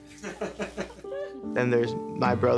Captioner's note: laughs